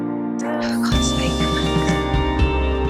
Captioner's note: voiceover